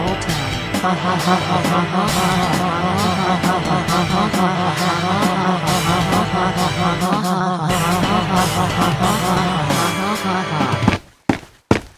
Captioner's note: laughs